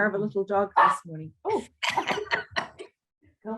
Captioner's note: dog barks; laughter